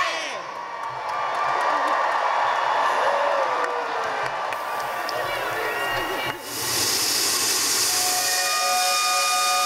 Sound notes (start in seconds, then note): 0.3 in Unison; 3.2 cheering and whistle blowing